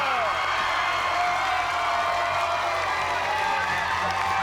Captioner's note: cheers and applause